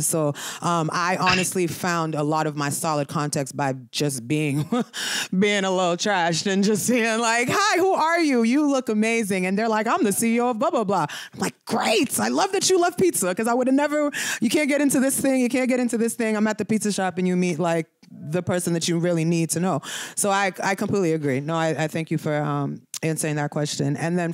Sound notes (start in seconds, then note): 4.7 laughter